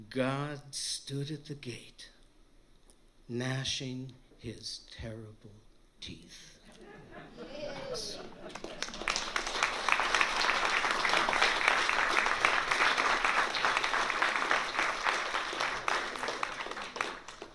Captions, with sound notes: God stood at the gate, gnashing his terrible teeth. [laughter from audience] [applause]